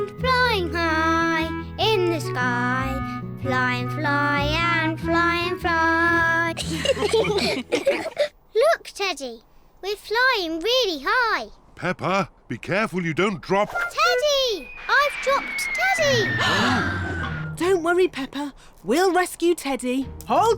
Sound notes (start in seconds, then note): 6.6 all laughing; 16.6 all gasp